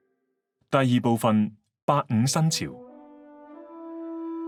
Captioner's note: Cantonese